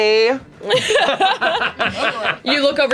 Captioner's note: laughter